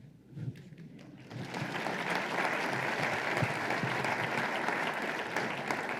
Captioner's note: applause